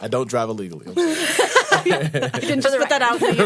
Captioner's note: laughter